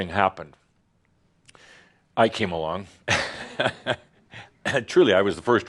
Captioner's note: chuckles